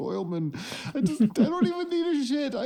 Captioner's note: giggling